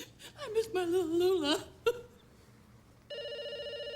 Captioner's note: crying; telephone rings